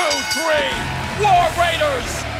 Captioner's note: bell ringing